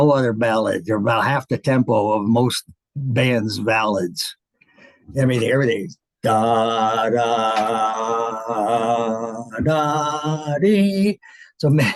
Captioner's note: hums